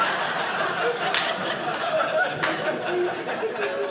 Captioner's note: audience laughing